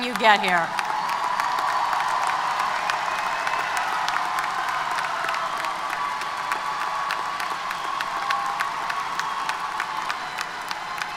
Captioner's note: applause & Cheers